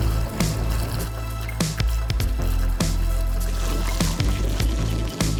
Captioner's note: water splashing